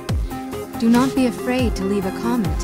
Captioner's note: voiceover